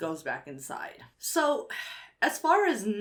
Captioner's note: sighs